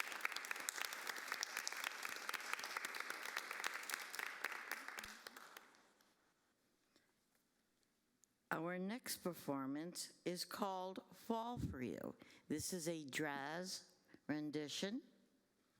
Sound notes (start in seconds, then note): 1.9 applause